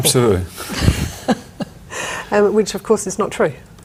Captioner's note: both chuckle